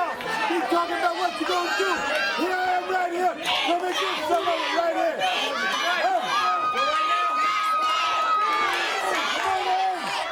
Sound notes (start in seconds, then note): 2.4 crowd cheering; 3.5 crowd chatter